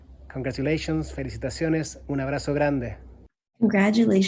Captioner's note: speaks in foreign language